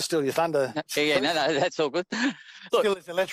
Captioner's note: laughs